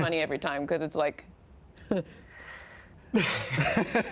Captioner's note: chuckles; laughs